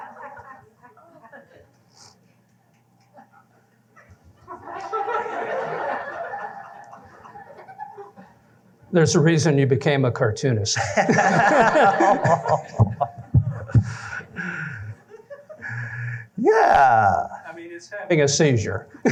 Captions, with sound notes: [LAUGHTER] There's a reason you became a cartoonist. [LAUGHTER] Yeah. I mean, it's having a seizure.